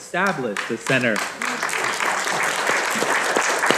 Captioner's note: audience applauding